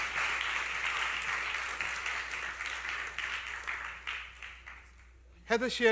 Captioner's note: applause